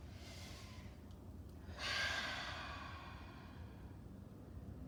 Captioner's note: breathing deeply